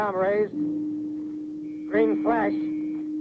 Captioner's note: dull beeping tone